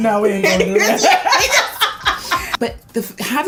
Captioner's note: laugh